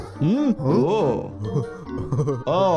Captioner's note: Lumpy laughing